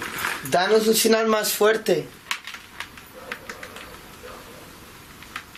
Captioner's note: speaking in foreign language